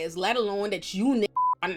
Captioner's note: beep